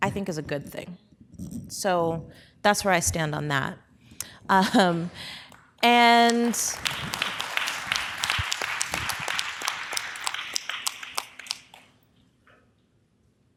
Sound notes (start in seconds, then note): 4.6 audience applause